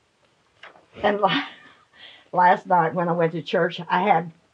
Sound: chuckles

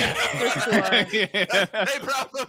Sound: all laugh

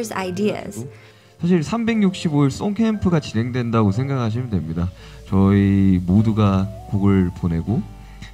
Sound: speaking in Korean

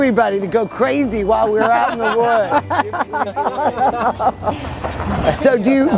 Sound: everyone laughs

